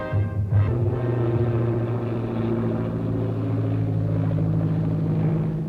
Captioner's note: propellers buzzing